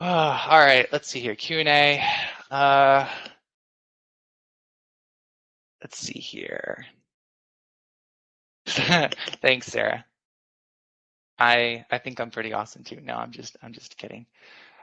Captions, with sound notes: Oh, all right, let's see here Q&A. Let's see here (laughs) thanks Sarah. I think I'm pretty awesome too, no I'm just kidding.